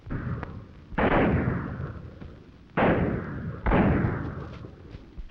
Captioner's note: gunshots banging